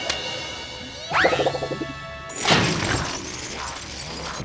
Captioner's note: triumphant music; washer's mouth closes